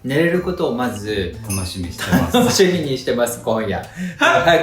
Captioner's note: laughs